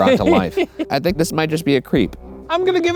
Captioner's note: laughing